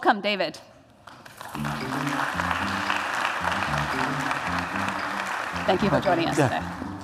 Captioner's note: applause